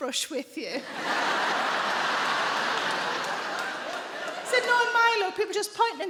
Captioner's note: audience laughing